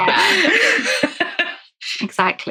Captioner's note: laughs